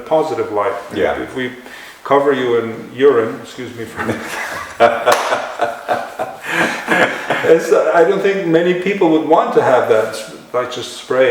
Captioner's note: laughter